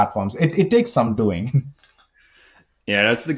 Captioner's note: chuckles